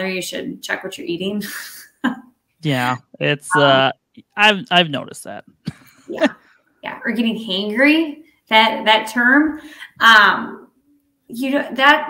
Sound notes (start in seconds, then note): 2.2 chuckles; 5.6 laughing